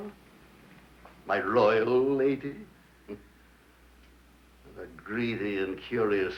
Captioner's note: chuckles